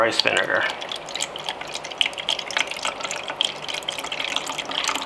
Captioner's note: vinegar trickling